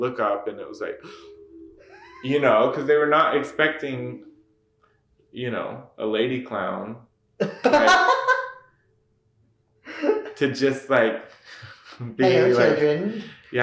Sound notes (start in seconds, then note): 1.0 gasps